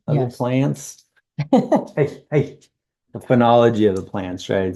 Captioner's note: laughs